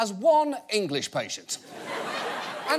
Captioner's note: audience laughs